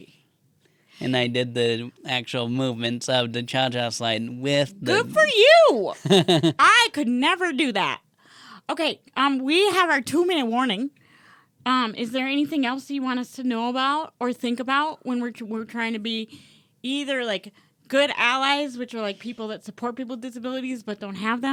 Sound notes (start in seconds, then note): 6.0 laughs